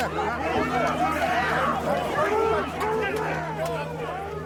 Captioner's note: shouting continues